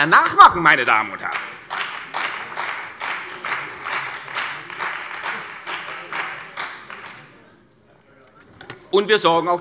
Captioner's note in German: Beifall bei der CDU und dem BÜNDNIS 90/DIE GRÜNEN